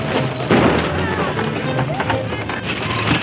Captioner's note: gunshots